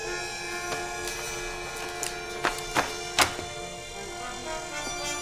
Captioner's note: papers rustling